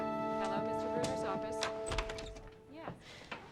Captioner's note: door opening